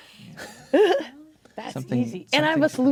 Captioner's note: laughs